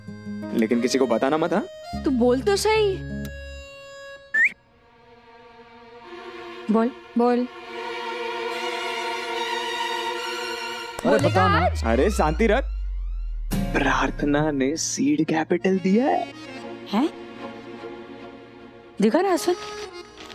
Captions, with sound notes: - Don't tell it to anyone. - Say it first. [whistling] - Yes? - Tell us. [intense music] - Out with it! - Calm down. Prarthana has given me seed capital. Let me see, Ashwin.